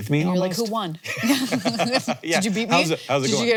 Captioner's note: both laughing